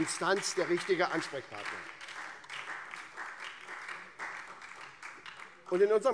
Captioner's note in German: Beifall SPD